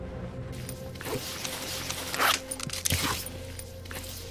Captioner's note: zipper zips